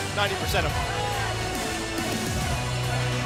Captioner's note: crowd cheering